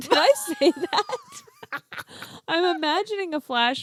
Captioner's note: laughing